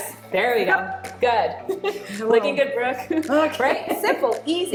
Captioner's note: laughing